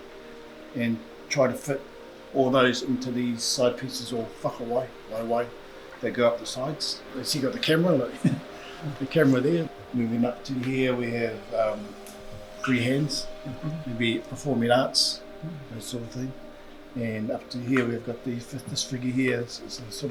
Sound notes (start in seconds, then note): 7.3 laughs